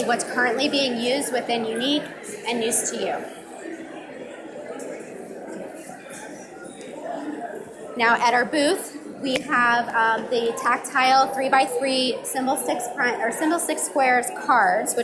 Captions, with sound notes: what's currently being used within unique and news to you. (audience mumbling) Now at our booth we have the tactile three by three Symbolstix SQUARES cards